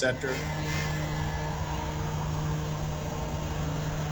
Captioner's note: machinery moving